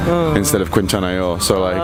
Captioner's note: formal speech